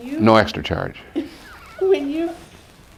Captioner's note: laughing